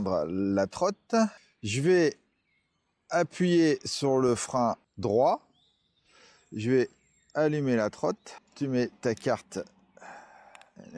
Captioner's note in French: soupir